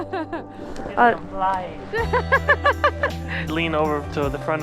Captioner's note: laughter